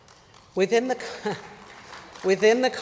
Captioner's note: applause